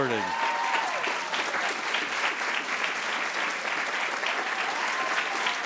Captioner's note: attendees cheering and applauding